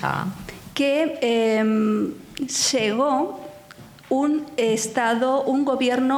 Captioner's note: speaking in foreign language